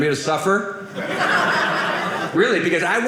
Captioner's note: audience laughing